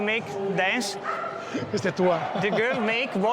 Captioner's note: laughs and speaks in Italian